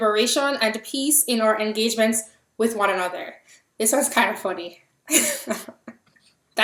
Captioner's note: laugh